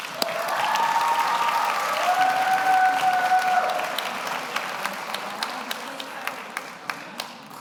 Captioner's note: audience cheers; audience applauds